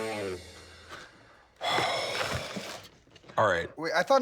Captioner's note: sighs